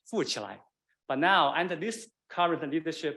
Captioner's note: man speaking Chinese dialect